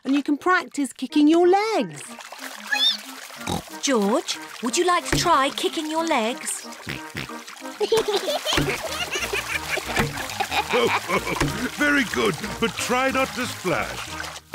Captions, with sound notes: and you can practice kicking your legs. (SQUEAKS) George, would you like to try kicking your legs? (OINKS) (BOTH GIGGLE) (LAUGHS) Very good, but try not to splash.